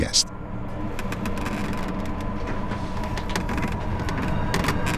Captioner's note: creaking